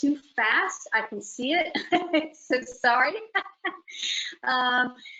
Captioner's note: laughter